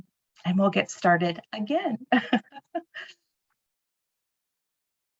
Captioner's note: chuckling